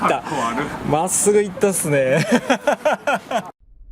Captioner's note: laughs